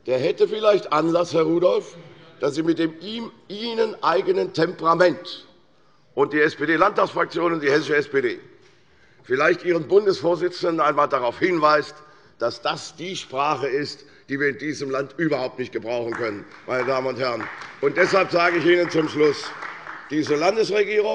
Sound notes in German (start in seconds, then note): 16.0 Beifall bei Abgeordneten der CDU